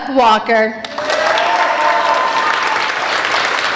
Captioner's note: applauding